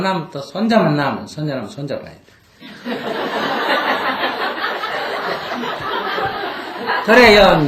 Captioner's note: audience Laughter